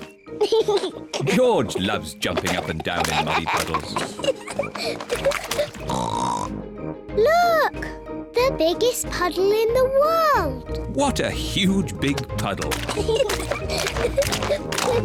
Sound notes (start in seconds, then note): 2.4 giggles; 3.1 giggles, snorts; 12.8 both giggling